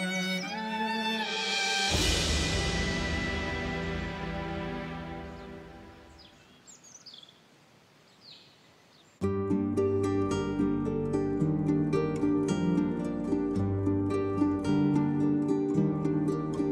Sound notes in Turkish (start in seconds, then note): none